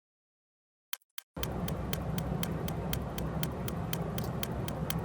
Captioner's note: clock ticking